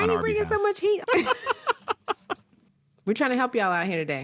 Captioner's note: laugh